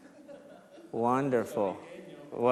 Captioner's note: crowd laughs